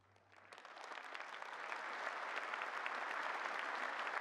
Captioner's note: applause